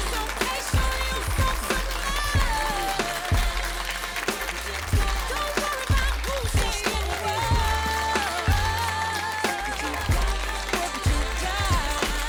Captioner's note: applause